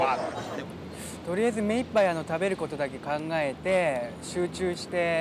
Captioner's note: in foreign language